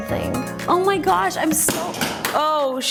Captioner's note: makeup compact clatters